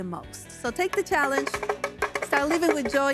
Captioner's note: a shaker rustling